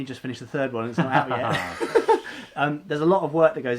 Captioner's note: laughing